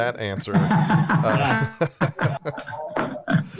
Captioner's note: laughter